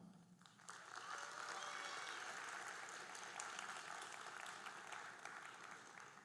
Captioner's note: audience cheering and applauding